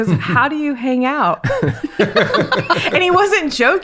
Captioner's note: laughing